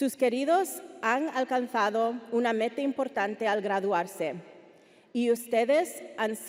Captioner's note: speaking Spanish continues